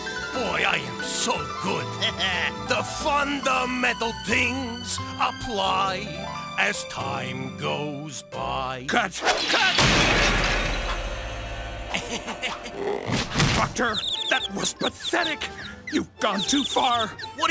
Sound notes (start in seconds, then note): 9.4 piano Crash; 11.8 nervously Chuckles; 13.1 thud; 13.2 thump